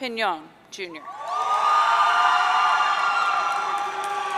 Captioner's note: audience cheering